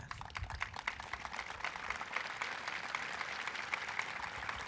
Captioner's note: audience applauding